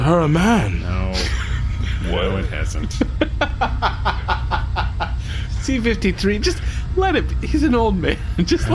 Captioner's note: exasperated